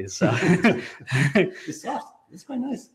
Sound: both laughing

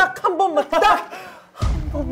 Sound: breath in

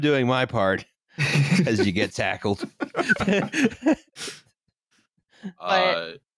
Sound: laughter

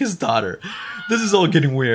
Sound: fx scream

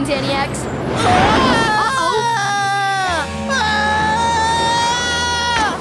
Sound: screaming

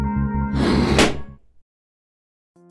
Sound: balloon pop

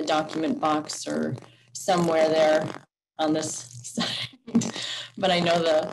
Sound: laughs

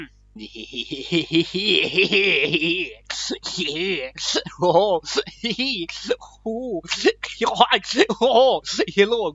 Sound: maniac noises

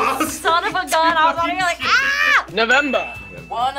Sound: screams

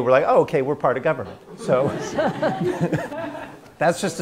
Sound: laughter

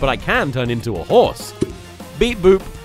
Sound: pop

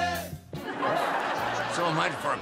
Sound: audience laughing

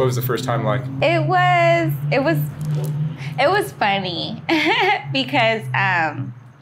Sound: laughing

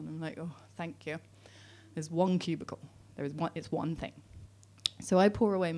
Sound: none

